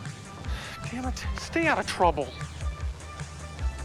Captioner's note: sighs